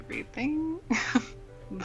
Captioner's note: chuckle